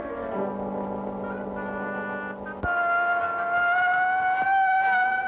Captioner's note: wolf howling; dramatic music